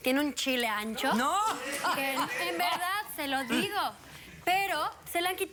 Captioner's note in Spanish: risas